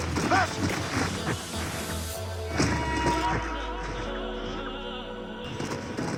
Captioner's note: dual welcome sounds